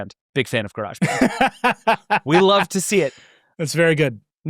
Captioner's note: laughing